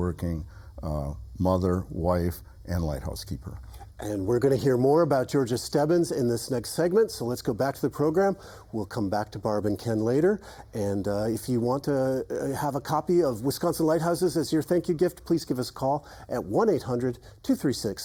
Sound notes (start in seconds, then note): none